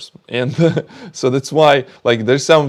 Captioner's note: chuckles